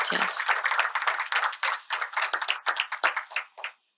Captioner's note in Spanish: aplausos